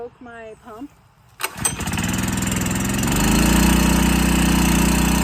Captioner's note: engine rumbling